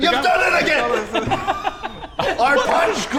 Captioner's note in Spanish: Risas